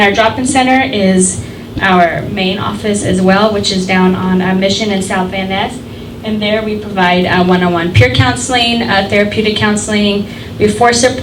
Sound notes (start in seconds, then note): none